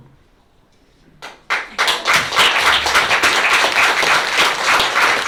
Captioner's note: applause